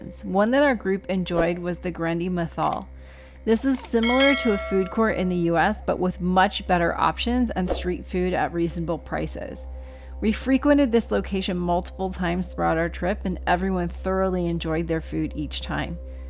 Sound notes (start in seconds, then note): 2.5 swipe noise; 2.6 click noise; 3.7 bell noise